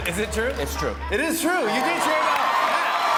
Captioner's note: cheers and applause